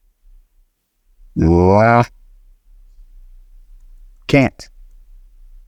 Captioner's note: he groans